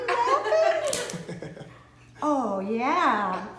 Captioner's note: man laughs